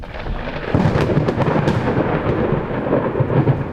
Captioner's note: thunder rumbles